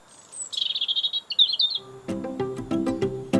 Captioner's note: 鳥が歌っている; 陽気な音楽